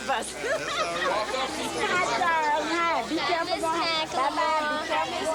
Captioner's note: laughing